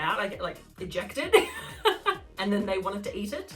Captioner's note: laughing